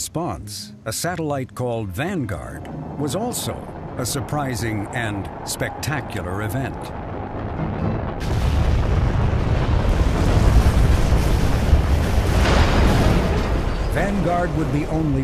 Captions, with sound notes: America's response, a satellite called Vanguard, was also a surprising and spectacular event. [rocket engines roaring] [rocket engines exploding]